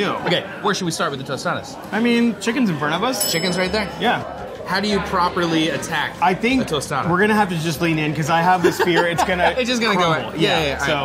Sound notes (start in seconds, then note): 3.2 bell dings; 8.6 laughing